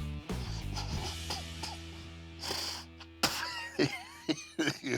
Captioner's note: coughs; spits